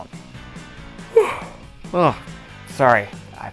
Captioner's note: yawn